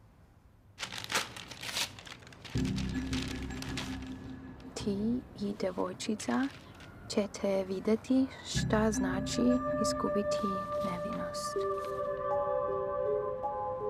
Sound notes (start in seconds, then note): 0.8 envelope ripping; 2.5 tense music